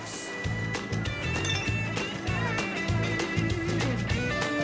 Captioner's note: glass clatters